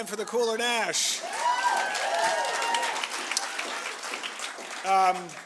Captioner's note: cheering and applause